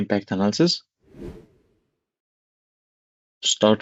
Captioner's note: air whooshing